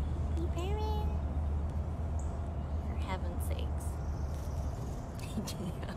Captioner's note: chirping